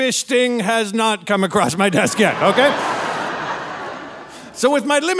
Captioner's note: audience laughing